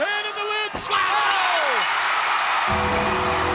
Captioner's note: audience cheers; bell rings; ominous music